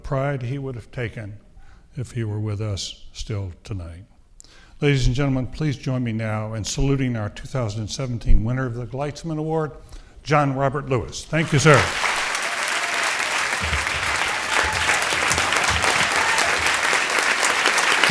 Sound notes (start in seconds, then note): 11.3 audience applauding